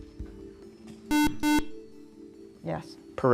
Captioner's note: buzzer